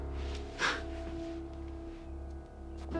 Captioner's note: scoffs